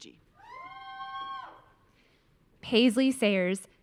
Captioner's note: audience cheering